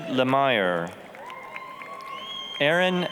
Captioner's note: applause, cheering